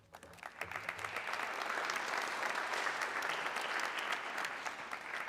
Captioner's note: audience clapping